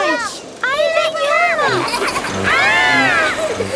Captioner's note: laughs